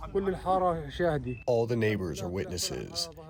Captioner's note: through translator